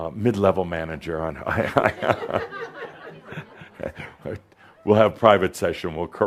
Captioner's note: Adamus chuckles